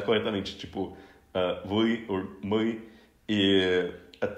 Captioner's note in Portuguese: russo